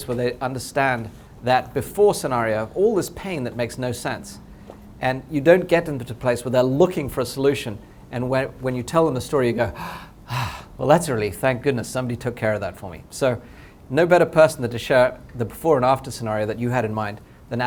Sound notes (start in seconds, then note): 9.7 sigh